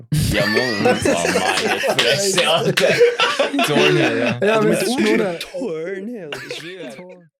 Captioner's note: laughter and gibberish